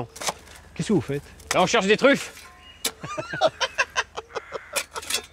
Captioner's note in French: Rires